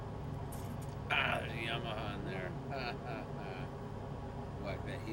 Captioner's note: laugh